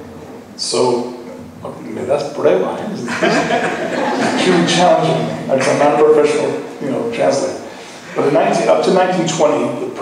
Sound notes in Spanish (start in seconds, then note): 3.0 laughing